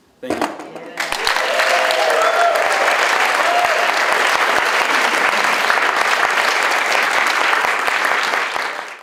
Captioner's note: audience Applause